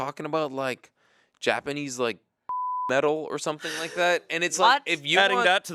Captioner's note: beep